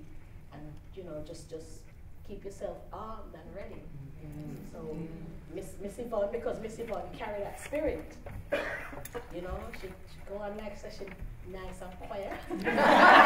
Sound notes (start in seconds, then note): 4.4 murmurs of agreement; 12.3 laughter